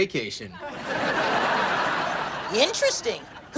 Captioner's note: laughs